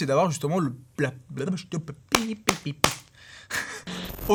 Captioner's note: stammers